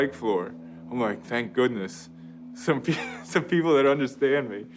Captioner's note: laughs